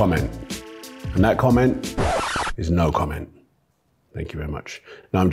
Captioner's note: record scratches